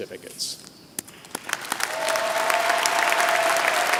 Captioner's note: applause